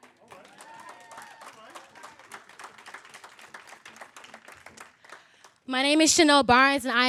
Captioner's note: applause; cheers